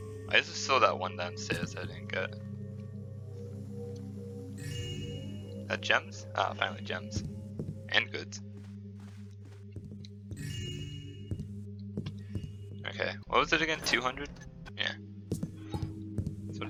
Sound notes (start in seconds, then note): 0.2 high-pitched ringing comes back; 4.4 joyous chime; 10.4 joyous chime